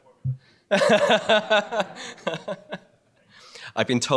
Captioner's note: laughter